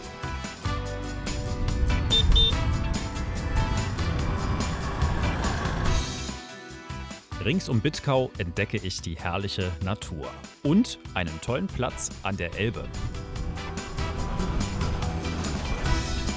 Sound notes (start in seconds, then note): 1.9 honking